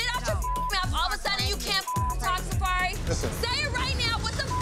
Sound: beep; beep

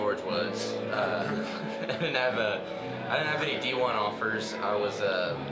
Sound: chuckling

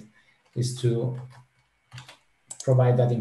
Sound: keyboard clattering

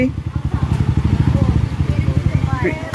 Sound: people mumbling

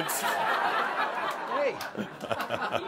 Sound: more laughter

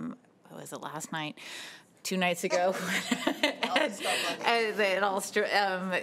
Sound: giggling

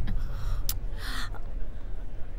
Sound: clicks tongue

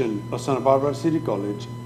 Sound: speaking foreign language

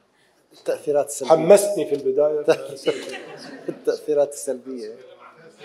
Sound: speaking in foreign language

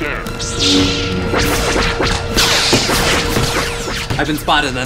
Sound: blasters shooting

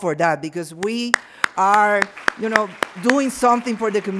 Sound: audience applauds

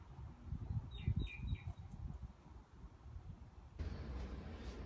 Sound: birds chirping

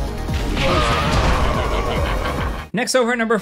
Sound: Raven groans; Jinpachi laughs

